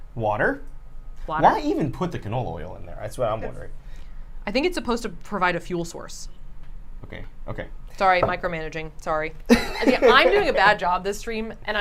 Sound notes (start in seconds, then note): 9.5 laughs